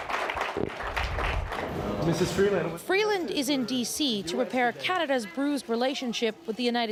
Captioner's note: applause